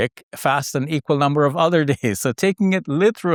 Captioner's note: laughs